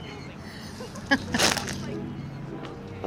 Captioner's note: laughing